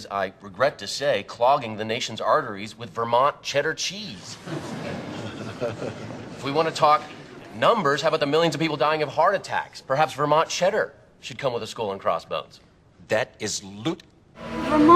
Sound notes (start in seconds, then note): 4.3 laughter